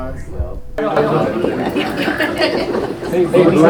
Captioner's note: crowd chatter; woman laughs